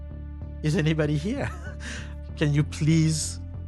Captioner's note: laughs